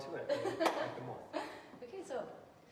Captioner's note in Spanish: riendo